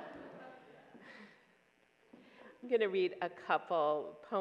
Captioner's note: audience laughs